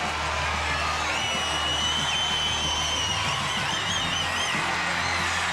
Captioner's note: audience cheering